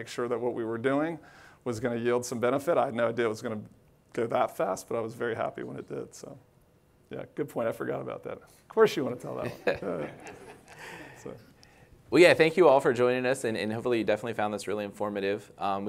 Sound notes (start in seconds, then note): 9.4 laughs